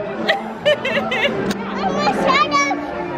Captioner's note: laughs